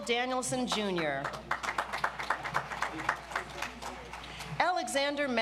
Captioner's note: audience applauds